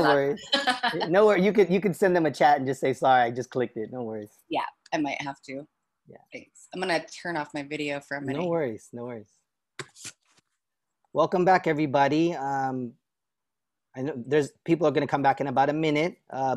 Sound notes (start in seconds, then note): 1.4 laughter